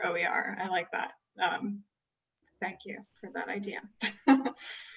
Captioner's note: laughter